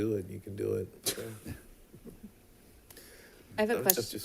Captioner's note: chuckles